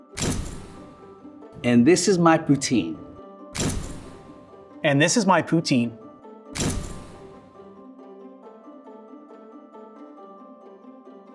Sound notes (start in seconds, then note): 0.2 camera flashes; 3.5 camera flashes; 6.6 camera flashes; 8.1 light upbeat music